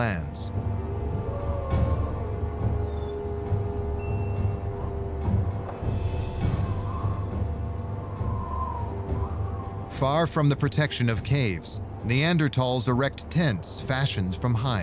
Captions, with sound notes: [wolf howling in distance] [ominous music] [wind howling] Far from the protection of caves, Neanderthals erect tents fashioned from hides.